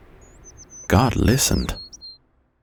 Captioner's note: bird chirping